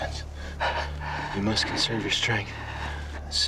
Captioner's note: panting